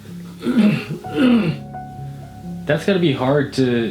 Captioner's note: clearing throat